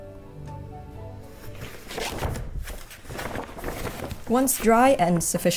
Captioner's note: linen ruffling